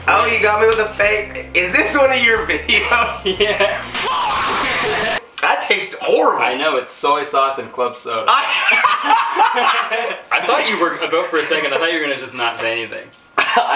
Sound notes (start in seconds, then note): 2.5 laughing; 8.3 laughing; 13.4 laughing